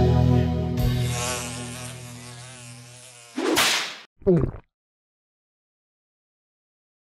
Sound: flies Buzzing

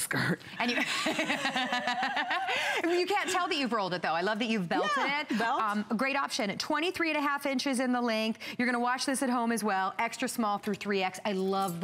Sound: laughter

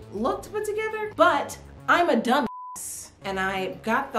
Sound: beep

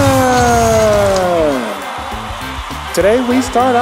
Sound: cheering

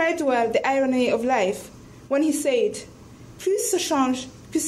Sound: speaks in foreign language

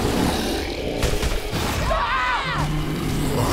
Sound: screaming

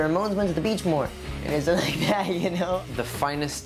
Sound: laughter

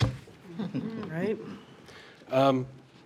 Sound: laughs

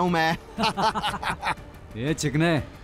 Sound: laughing

